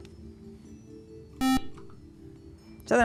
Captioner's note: buzzer